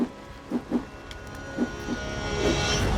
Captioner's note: rope whirls